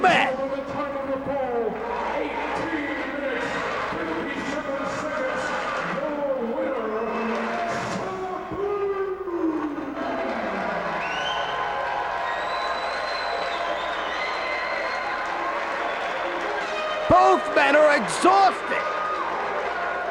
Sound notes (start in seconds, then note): 9.7 spectators cheering and applauding; 19.8 spectators chanting "Sabu!"